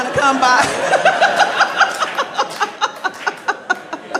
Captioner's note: crowd laughs